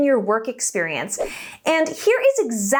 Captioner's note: air whooshing